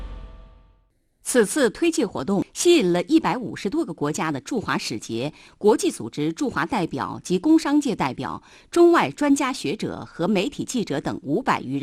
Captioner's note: Chinese audio